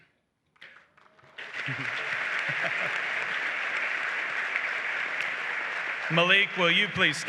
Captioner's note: applause